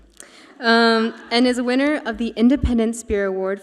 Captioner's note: audience laughs